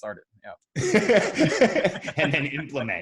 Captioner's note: laughs